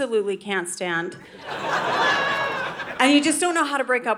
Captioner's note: audience laughing